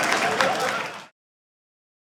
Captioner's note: audience applauding